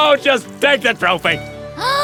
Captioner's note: gasps